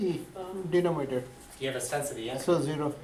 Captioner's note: voiceover